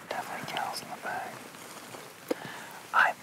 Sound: whispers

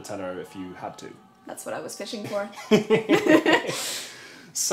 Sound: laughs

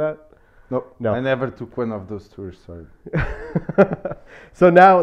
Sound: laughing

